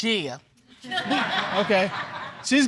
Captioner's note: audience laughing